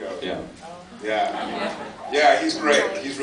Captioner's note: surprised murmurs